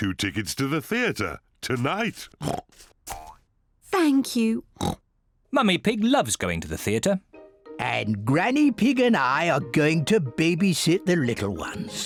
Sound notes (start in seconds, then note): 2.4 oinks; 4.8 oinks